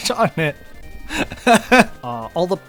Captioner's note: laughter of pity, shame, and pride